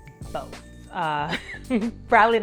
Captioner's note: laugh